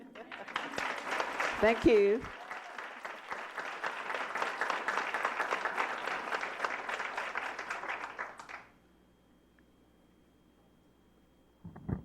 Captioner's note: applause